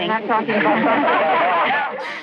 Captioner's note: laughter